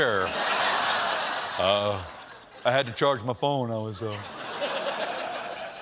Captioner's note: laughter